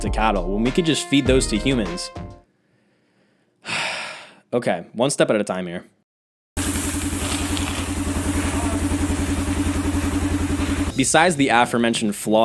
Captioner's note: deep breath